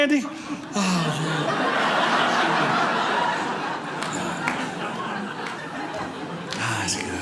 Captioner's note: audience laughing